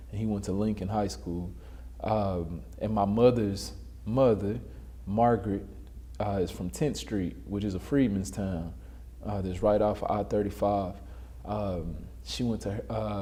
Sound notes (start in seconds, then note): none